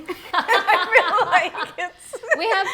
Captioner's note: laughing